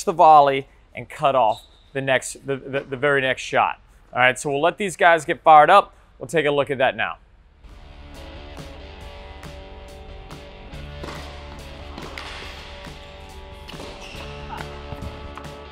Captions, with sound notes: the volley and cut off the very next shot. All right so we'll let these guys get fired up. We'll take a look at that now. (upbeat rock music) (ball smacking)